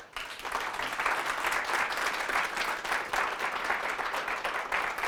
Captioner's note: applause